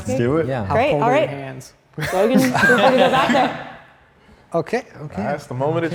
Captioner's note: group laughs